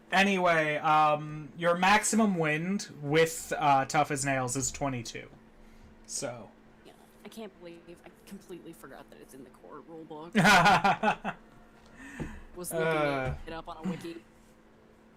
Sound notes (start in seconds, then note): 10.3 laughing